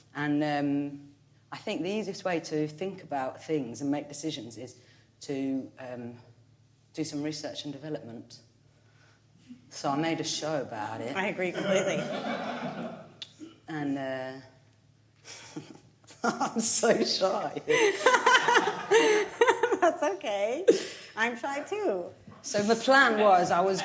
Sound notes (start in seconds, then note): 11.5 audience laughing; 16.1 laughs